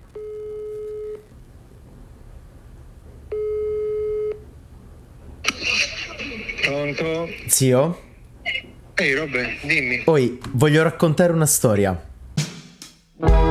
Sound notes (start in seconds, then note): 0.2 phone rings; 3.3 phone rings